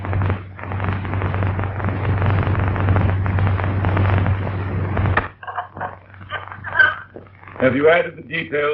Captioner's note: fire crackling